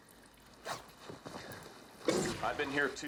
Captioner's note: zipper rasps